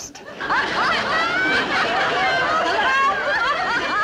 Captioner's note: women laughing